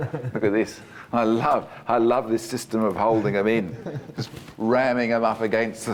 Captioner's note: laughs